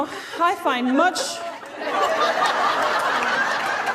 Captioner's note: laughter